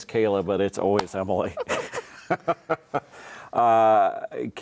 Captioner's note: both laughing